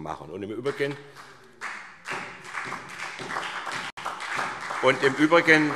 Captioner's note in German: Beifall SPD